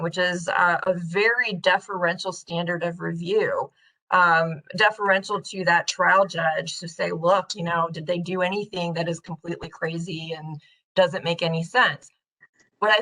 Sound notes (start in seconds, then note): none